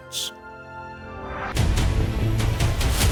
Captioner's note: air wooshing; intense music